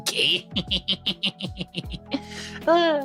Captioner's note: laughing